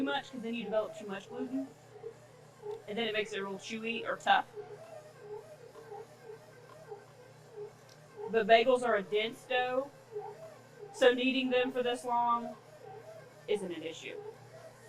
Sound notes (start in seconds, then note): 5.0 mixer whirring